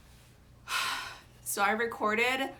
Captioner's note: big sigh